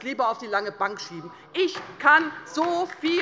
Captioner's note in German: Beifall bei der LINKEN